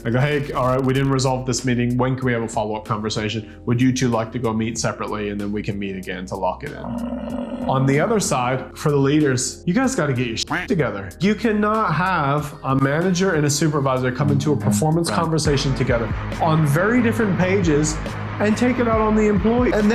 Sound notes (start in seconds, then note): 6.7 buffalo grunting; 10.3 duck quacking